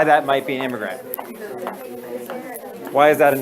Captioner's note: student chatter